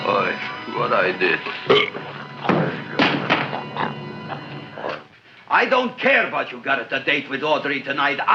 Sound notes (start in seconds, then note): 1.3 Audrey Jr. burps; 2.5 gun thuds